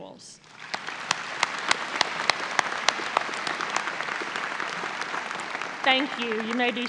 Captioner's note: audience applause